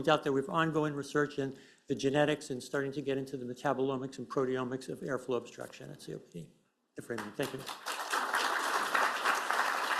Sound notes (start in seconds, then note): 7.0 applause